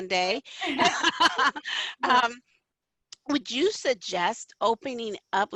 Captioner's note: laughter